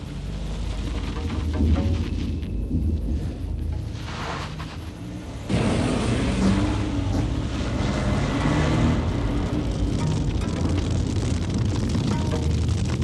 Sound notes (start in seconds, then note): 6.2 fire raging; 10.0 dramatic music